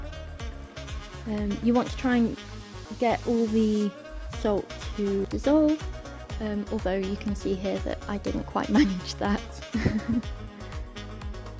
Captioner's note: haha